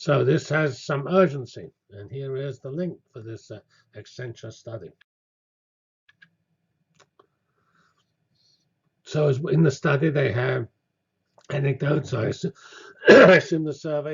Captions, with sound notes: So this has some urgency, and here is the link for this existential study. So in the study they have anecdotes [COUGH] I assume the survey had